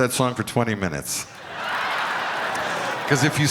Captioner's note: crowd laughing